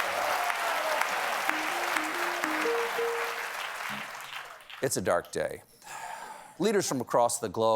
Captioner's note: applause